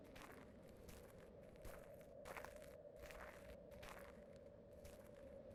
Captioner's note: footsteps pattering